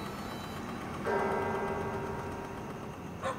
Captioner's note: church bells